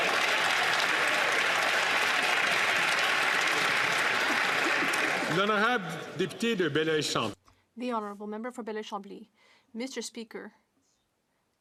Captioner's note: some Applause